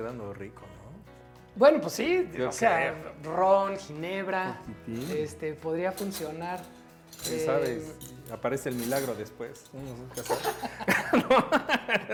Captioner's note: laughs